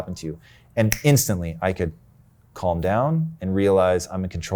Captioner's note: finger snaps